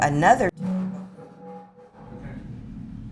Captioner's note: wobble noise